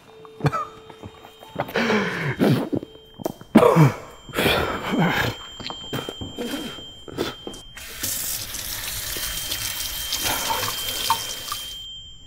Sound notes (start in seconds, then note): 6.1 high pitched tone; 7.9 water splashes